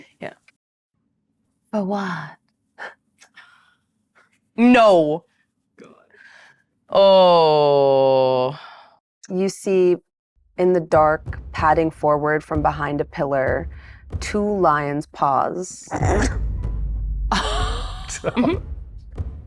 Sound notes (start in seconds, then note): 17.3 chuckles